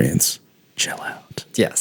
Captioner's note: narrator voice